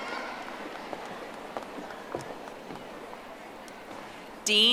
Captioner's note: audience applauding